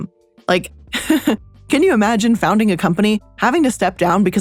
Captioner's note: laughs